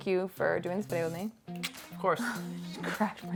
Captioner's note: kissing sound